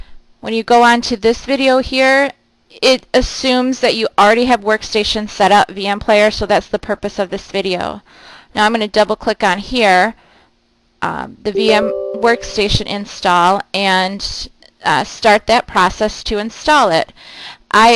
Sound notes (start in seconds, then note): 11.5 computer chiming